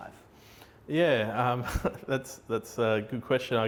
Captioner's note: laughing